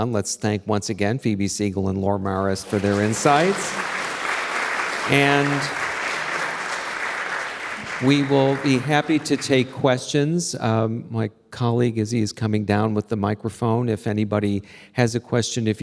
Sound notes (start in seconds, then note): 4.2 audience clapping